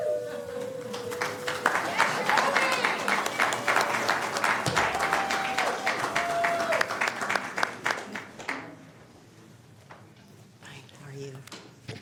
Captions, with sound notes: >> DISTRICT TWO. WOULD SHIRLEY FONG PLEASE JOIN WOULD SHIRLEY FONG PLEASE JOIN ME? ME? [ CHEERS AND APPLAUSE ]